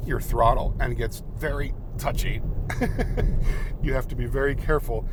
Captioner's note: laughs